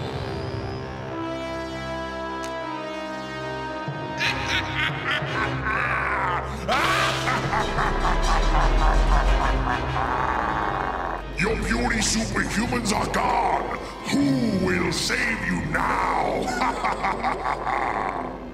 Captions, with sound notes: (sinister laughing) (deep sinister laughing) Your puny superhumans are gone. Who will save you now?